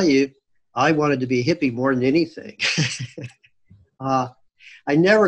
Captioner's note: laughs